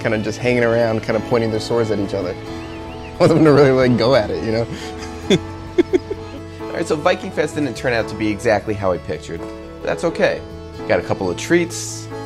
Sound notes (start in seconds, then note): 5.6 laughs